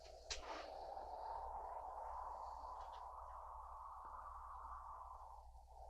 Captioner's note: wind continues whooshing